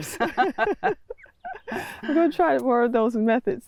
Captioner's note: laugh